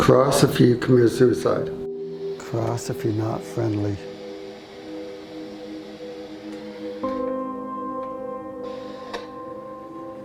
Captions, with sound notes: - Cross if you committed suicide. Cross if you're not friendly. (electronic static hissing) (soft eerie music)